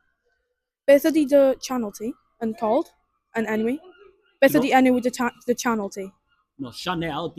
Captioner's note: in English and Welsh